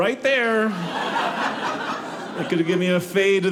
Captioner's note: audience laughing